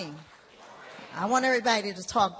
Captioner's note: applause